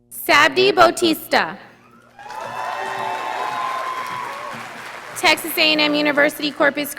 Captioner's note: audience applauding